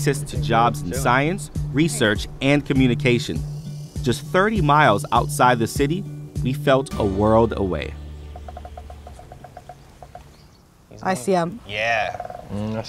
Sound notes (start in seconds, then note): 8.1 woodpecker pecking